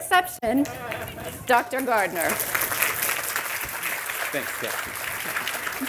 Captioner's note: audience applauding